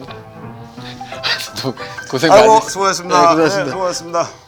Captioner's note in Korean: 웃으며